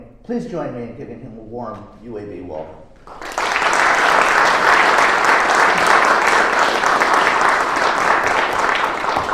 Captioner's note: applause